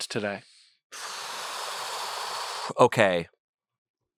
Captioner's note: exhales